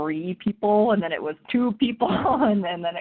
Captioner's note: chuckles